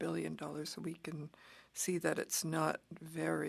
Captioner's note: speaking French